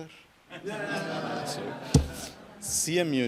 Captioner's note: audience laughs